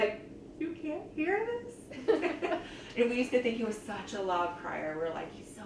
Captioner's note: laughs